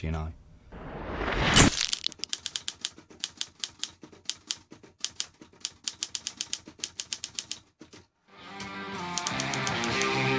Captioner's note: typewriter clicking